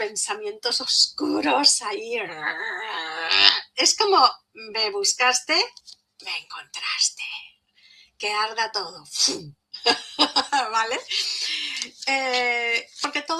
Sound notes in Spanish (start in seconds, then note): 8.4 resoplido; 9.8 risas